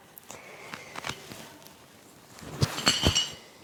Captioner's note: medals Clanking